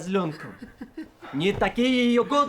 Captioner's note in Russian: усмешки